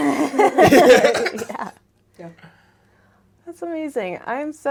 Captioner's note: laughter